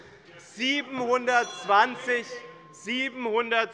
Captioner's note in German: Unruhe - Glockenzeichen der Präsidentin